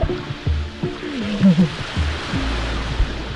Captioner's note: laughs